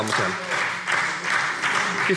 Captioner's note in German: Beifall SPD